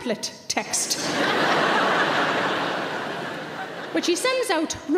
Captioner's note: audience laughing